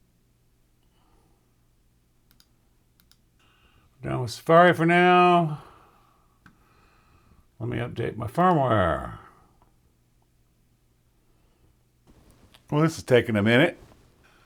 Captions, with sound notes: (keyboard clicking) Now Safari for now. Let me update my firmware. Well, this is taking a minute.